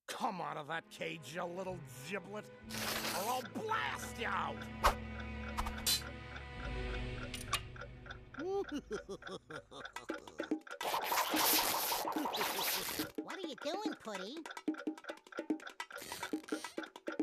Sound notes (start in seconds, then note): 8.4 laughing maliciously; 9.9 clock ticking; 15.3 clock ticking